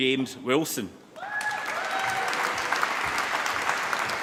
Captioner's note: applause